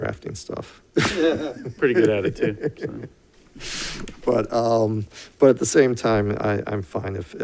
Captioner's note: laughs